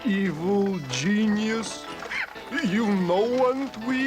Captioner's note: laughs